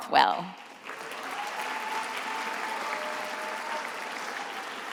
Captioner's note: attendees applauding